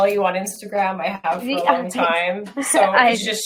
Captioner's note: laughs